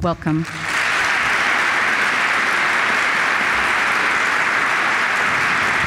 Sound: applause

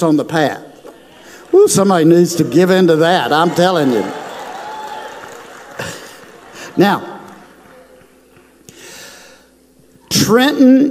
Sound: crowd cheers

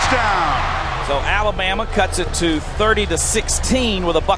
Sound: voiceover

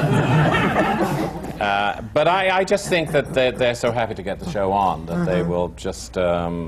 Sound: laughter

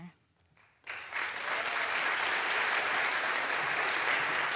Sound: audience applauds

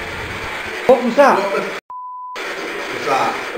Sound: beep

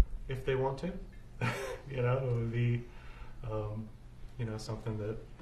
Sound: laughs

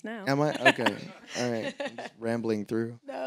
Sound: audience laughing; laughs

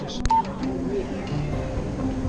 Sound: pleasant music; beep

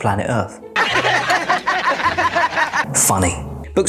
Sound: all laughing

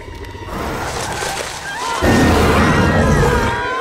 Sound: roars; gasps, screams

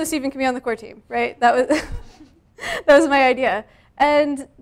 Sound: laughs

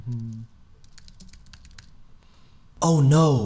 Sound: humming; keyboard tapping

